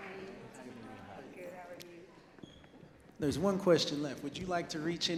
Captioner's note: off mic